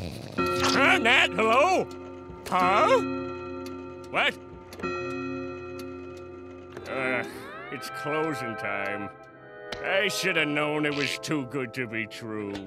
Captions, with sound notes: [dinging] Huh? Nat? Hello? Huh? What? [dinging] Ah. It's closing time. I should have known it was too good to be true.